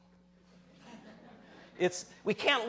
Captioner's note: laughter